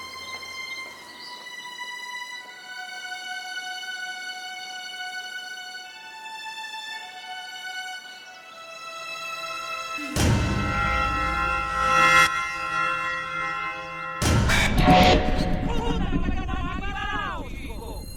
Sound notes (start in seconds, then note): 11.9 reverb; 14.1 fast buzzing; 15.7 echo